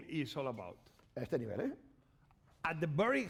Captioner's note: speaking spanish